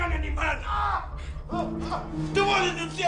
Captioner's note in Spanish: Quejidos